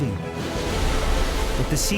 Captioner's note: waves roaring